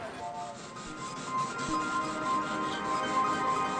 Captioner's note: horn tooting